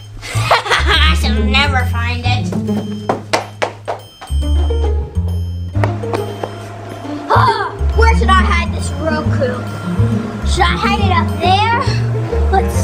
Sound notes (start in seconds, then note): 0.3 laughs evilly; 2.3 footsteps pattering